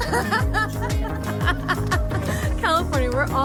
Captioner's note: laughing